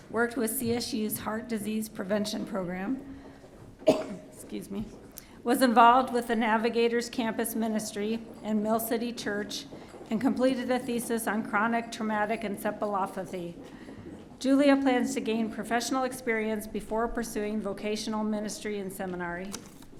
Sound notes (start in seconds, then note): 3.8 coughing